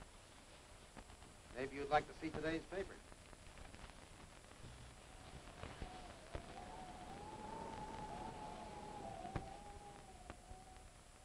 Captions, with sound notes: - Maybe you'd like to see today's paper. (wind howling) (thunder rumbling)